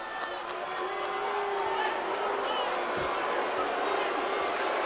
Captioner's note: audience jeers